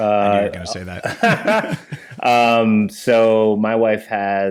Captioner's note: both laughing